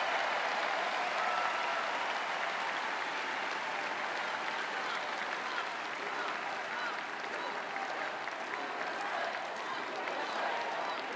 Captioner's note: cheering and Applause